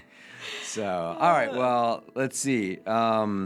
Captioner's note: laughing